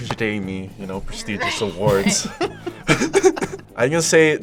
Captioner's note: laughs